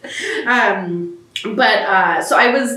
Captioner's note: laughter